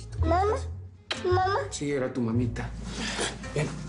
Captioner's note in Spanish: Susurra